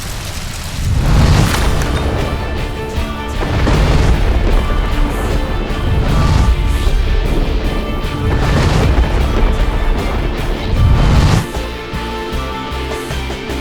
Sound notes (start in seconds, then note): 0.9 air whooshing; 3.5 dramatic operatic music; 3.5 thunder crashing; 10.8 air whooshing